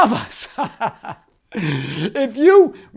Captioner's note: laughs